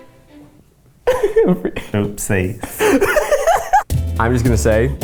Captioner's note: laughs